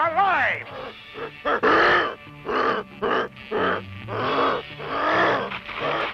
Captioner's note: grunting